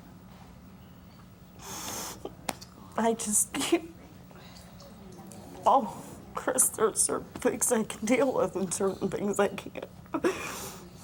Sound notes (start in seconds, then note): none